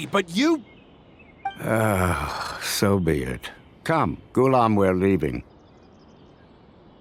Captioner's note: sigh